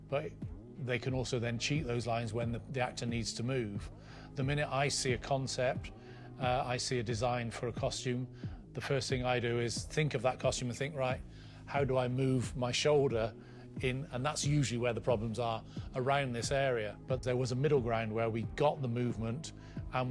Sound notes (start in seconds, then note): none